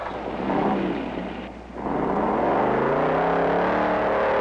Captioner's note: engine revving